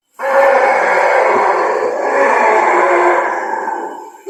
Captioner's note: creatures roaring